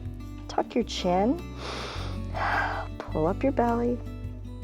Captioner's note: inhales and exhales